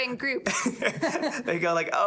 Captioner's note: both laughing